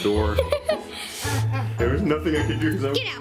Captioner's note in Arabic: يضحك